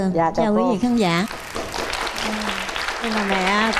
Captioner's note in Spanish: aplausos